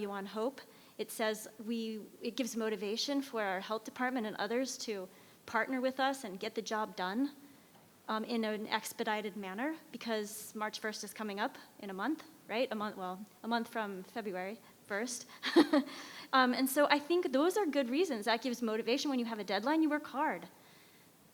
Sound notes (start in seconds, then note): 15.4 chuckles